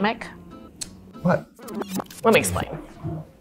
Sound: tape rewinding noise

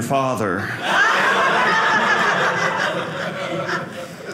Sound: audience laughing

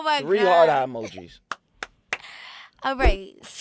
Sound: clapping

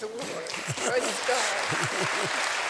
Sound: laughter

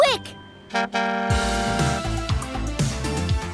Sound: horn; upbeat music

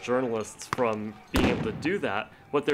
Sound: explosion

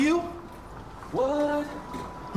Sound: in robotic voice

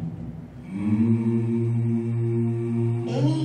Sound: harmonic humming

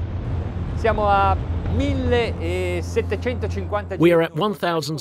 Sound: speaking in foreign language

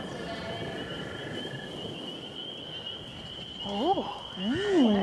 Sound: sheep baaing

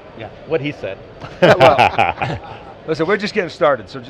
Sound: laughter

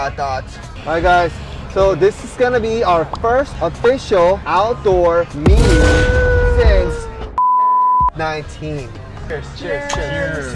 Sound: beep

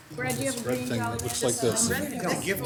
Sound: council members mumble

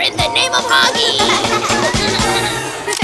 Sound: laughts

